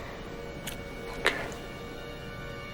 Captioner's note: whispering; suspenseful music